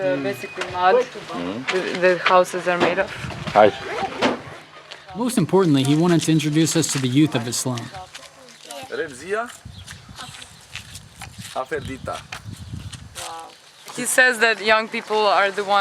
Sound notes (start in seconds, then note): 9.0 speaks in foreign language